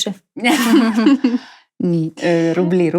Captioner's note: laughter